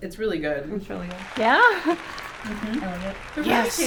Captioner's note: kids cheering